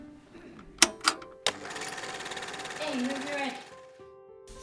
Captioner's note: projector starting noise